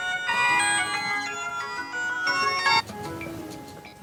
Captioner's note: phone ringing; ringing phone